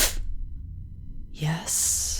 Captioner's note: leaning down to hiss into your ear